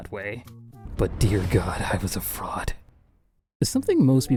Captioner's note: lightning strikes